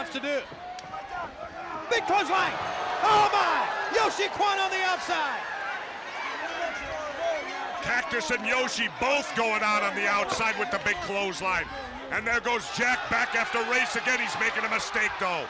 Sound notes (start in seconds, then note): 6.5 crowd chatter